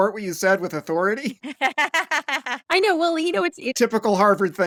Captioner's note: laughter